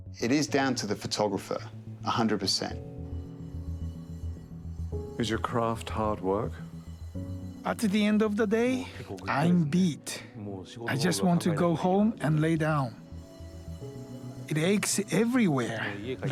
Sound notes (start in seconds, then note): 5.4 voiceover